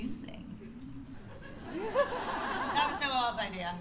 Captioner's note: laughter